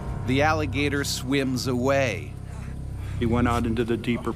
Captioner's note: voiceover